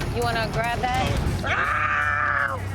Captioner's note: screams